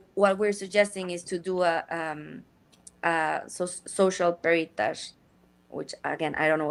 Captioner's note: speaks in Spanish